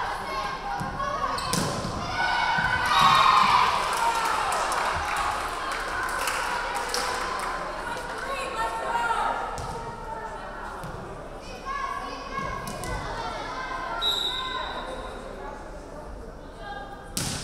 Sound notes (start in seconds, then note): 2.0 crowd cheering; 2.5 referee whistling; 14.0 referee whistling